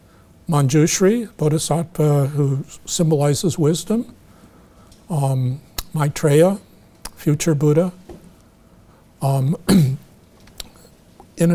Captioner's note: clears throat